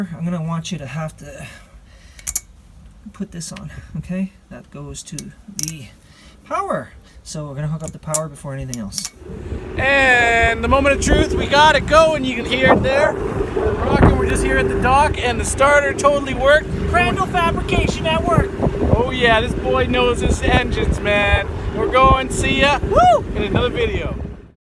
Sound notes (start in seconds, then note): 9.6 wind whirling; 13.1 engine roaring